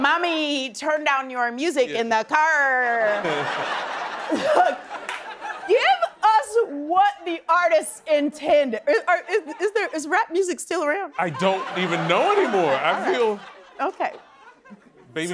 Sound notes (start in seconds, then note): 3.0 laughing